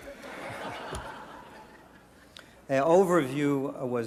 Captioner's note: audience laughter